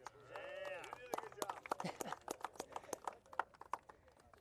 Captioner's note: clapping